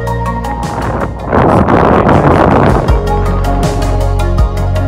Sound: strong winds whistling

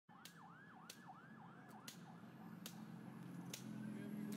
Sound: cane tapping on sidewalk; street noises

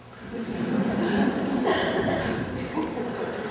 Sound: laughter

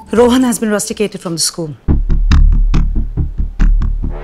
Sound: none

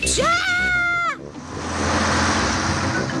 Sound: shrieks

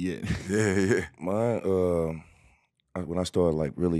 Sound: laughing

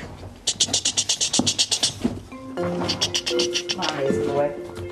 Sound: makes clicking noises

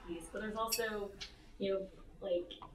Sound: none

